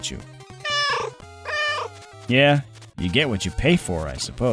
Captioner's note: meow, meow